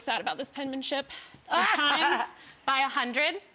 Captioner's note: laughs